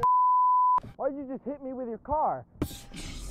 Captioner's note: beep